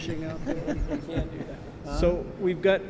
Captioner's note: laughter